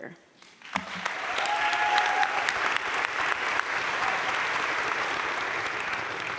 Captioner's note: crowd cheering and applauding